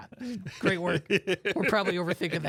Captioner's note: laughs